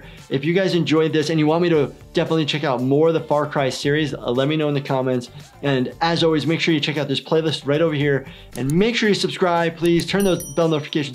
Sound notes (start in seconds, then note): 8.5 mouse clicks; 9.9 bell dings